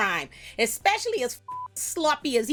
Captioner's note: beep